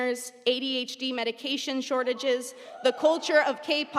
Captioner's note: audience cheering